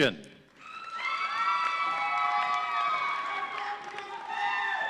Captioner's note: audience cheering